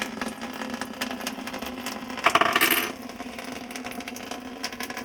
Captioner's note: water draining